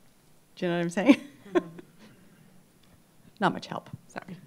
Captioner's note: laughs